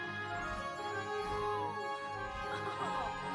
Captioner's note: laughing